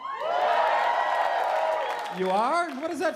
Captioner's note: cheering